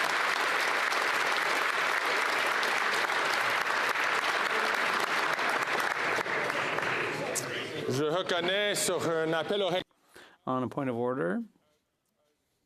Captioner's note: applause